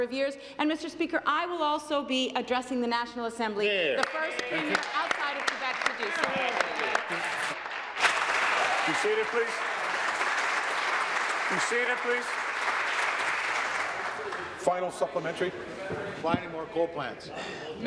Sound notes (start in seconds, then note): 7.5 applause